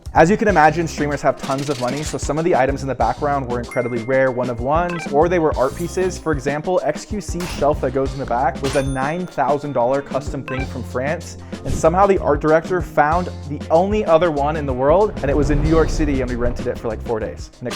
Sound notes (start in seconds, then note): 3.7 bell dings; 8.7 cash register dings; 10.4 effect blips